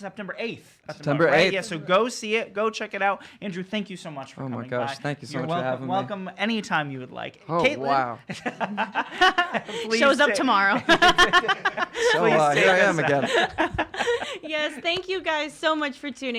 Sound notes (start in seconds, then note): 8.3 laughing